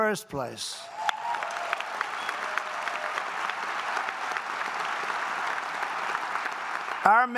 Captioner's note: applause